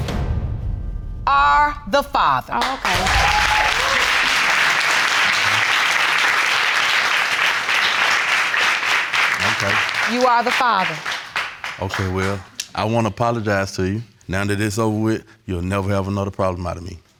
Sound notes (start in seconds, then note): 3.0 audience applauding